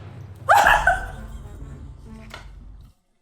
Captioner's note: dramatic music; laughing